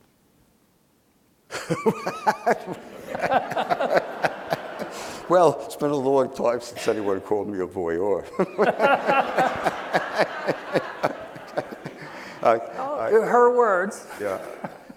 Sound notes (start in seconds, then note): 1.5 laughing; 8.2 laughing